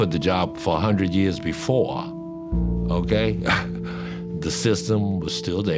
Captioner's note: chuckles